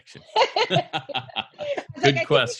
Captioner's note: laughs